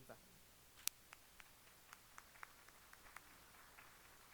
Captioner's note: applause